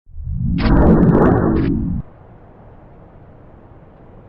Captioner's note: wind whooshing